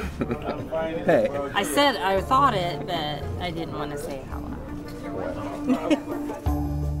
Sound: laughing

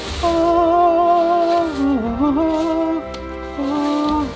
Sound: angelic humming

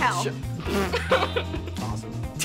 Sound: laughing

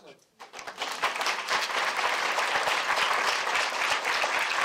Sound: applause

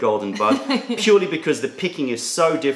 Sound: laughter

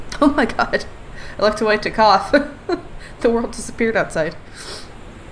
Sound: laughs

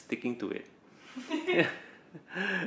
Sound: laughs

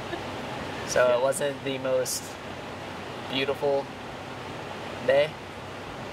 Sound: laughs

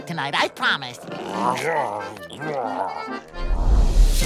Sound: babbling

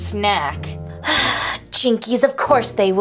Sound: sighs

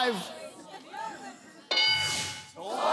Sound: bell dings

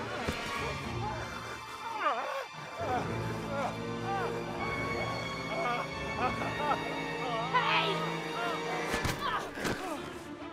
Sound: screaming

